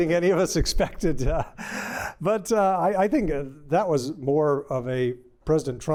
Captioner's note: laughter